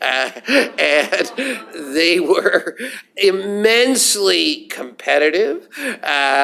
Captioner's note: laughter